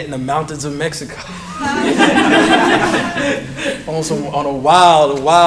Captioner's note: laughter